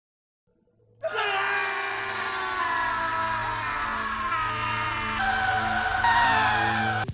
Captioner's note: belligerent screaming